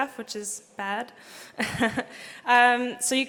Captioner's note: laugh